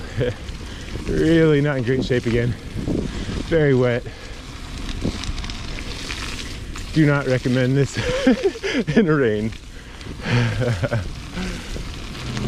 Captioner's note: laughing